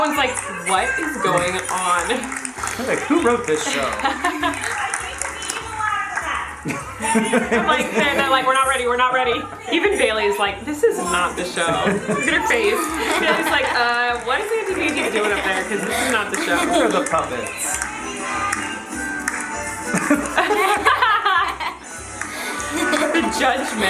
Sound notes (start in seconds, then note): 0.0 laughs; 6.6 laughs softly; 18.4 lively accordion music; 19.9 laughs loudly